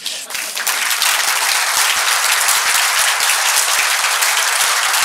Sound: audience applauding

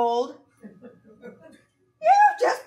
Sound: audience laughing

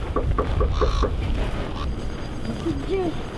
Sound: knocking

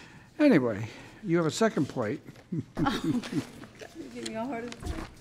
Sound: chuckles

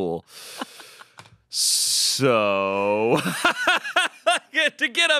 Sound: laughs

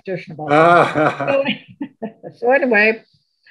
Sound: laugh

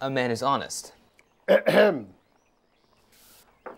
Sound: Greenhow clears throat

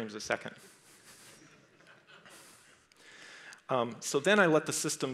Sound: crowd laughs

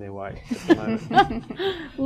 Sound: laughter

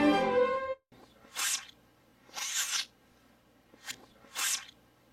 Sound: orchestral music plays backwards; kissing sounds

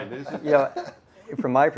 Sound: laughs

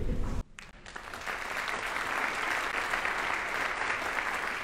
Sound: audience applauding

